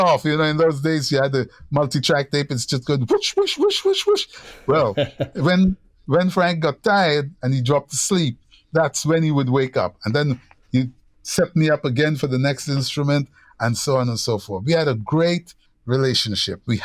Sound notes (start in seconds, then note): 4.4 laughter